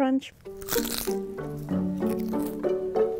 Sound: popcorn crunching; curious music

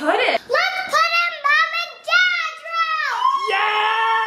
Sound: yelling; cheering

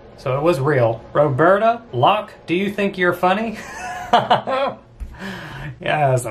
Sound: laughs

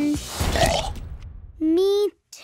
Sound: Belch

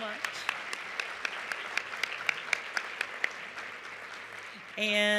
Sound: applause

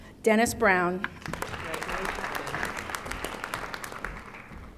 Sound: audience applauding

